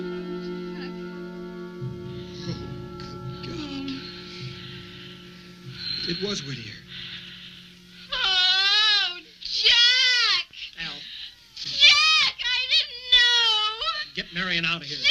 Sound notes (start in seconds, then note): 7.7 wailing; 14.9 screaming